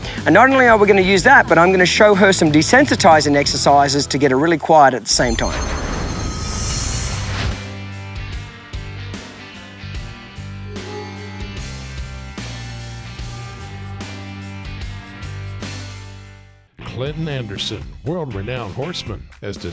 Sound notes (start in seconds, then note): 5.1 shimmering; 7.7 determined country music